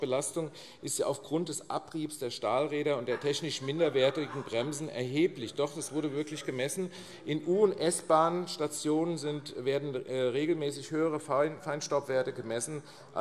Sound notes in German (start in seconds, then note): 5.3 Zuruf